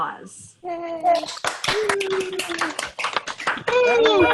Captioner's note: crowd applauding